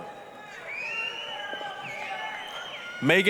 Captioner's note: applause, cheering